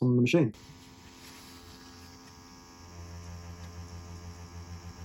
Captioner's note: machine buzzes softly